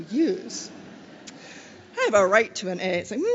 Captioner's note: laughter